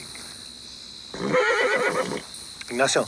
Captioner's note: horse neighs